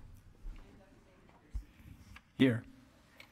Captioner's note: secretary speaking faintly